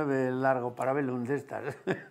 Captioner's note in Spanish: ríe